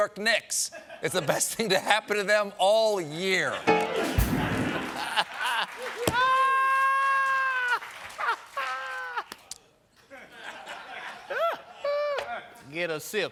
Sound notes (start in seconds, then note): 2.9 laughter; 3.6 piano riff